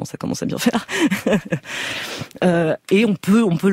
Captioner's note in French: rires